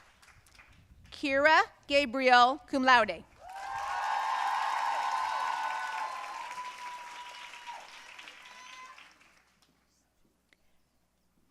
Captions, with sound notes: Kira Gabriel, cum laude. (audience cheering and applauding)